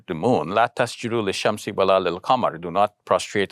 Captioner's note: speaks in foreign language